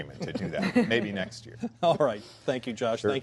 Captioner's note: laughter